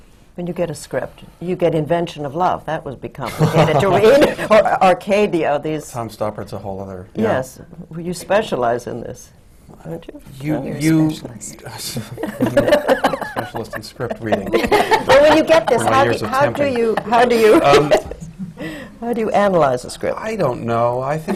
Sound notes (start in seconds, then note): 12.0 laughter